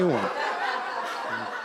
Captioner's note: laughter